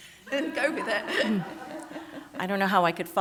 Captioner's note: laughter